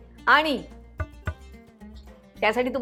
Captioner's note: knocks